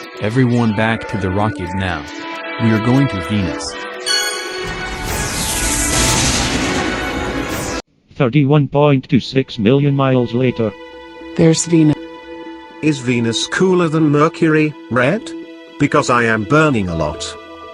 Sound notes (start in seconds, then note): 4.6 warp drive activating